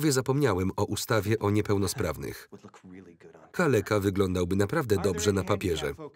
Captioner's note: laughs